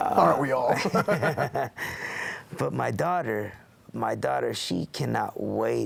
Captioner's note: laugh